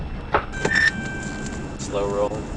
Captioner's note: radio dings